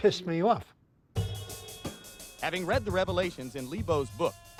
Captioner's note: man on TV